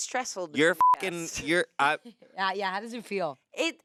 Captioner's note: beep